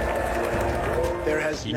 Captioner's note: crowd applauding